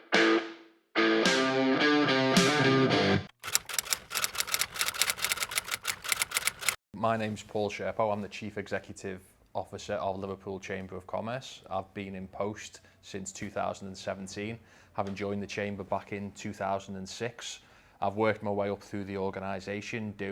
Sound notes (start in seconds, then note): 3.4 keyboard clicks